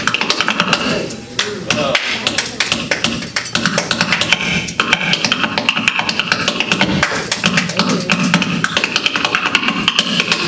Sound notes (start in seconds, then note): 1.9 tapping and clapping; 7.2 tapping and clapping